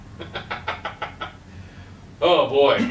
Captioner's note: laughs